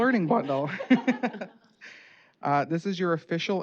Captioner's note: laughter